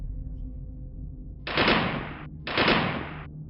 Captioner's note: ominous music; gun shots